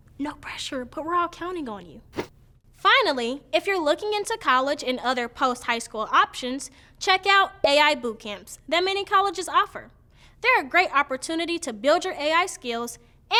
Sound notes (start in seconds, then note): 0.1 whispering; 2.8 in normal voice